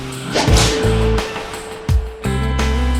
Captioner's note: snapping; bold jazz fusion music